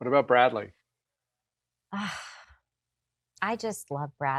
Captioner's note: sighs